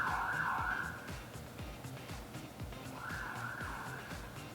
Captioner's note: siren